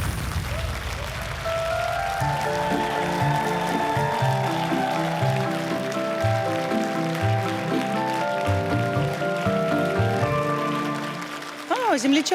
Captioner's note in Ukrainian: оплески